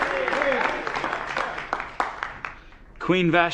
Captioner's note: applause